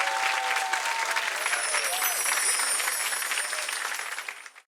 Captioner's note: chimes